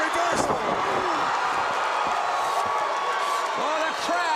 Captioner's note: crowd cheering